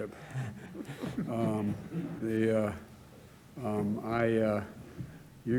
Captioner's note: laughter